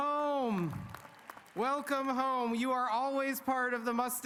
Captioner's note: applause